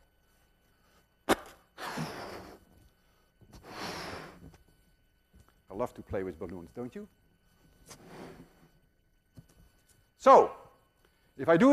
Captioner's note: huffing and puffing